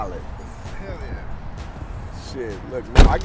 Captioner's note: voiceover